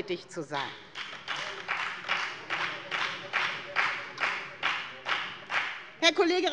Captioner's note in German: Beifall bei der FDP